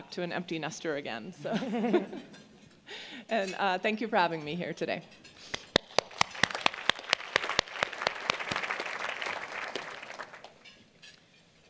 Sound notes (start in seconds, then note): 5.5 applause